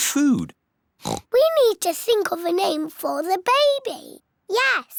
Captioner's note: oinks